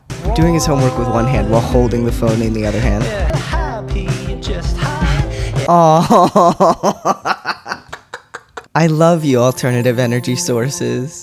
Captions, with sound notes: Doing his homework with one hand while holding the phone In the other hand. Aww. [laughter] I love you, alternative energy sources.